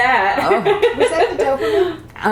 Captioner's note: laughter